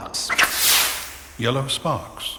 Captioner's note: sparks fly